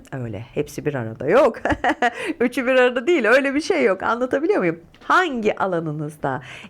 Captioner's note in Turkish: kahkaha